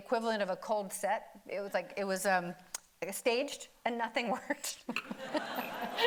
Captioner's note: audience laughing; laughs